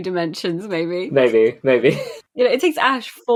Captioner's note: laughs